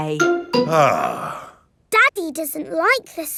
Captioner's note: sighs